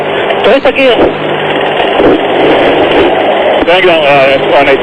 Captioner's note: stick Shaker - Stall Warning